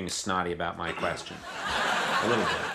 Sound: audience laughs

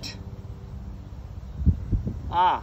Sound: distant helicopter approaching

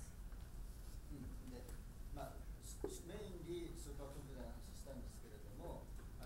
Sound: speaking in foreign language

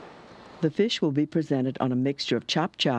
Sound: voiceover

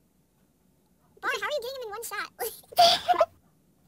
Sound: laughs

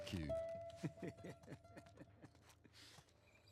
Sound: laughs

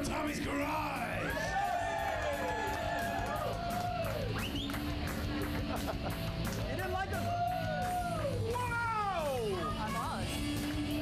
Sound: upbeat rock music; audience cheering; upbeat rock music

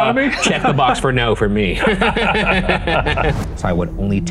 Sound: both laughing

